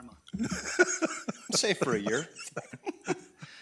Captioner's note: board member laughs